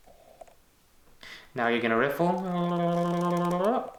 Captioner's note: trilling voice